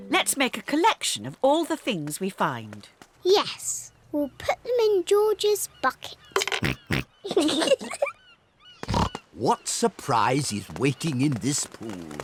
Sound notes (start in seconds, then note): 7.0 oinks; 7.2 both giggle